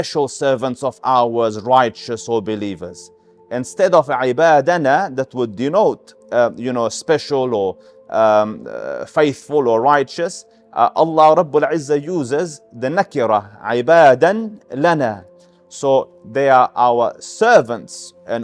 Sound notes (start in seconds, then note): 13.6 Arabic